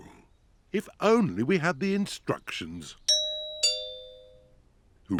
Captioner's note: doorbell rings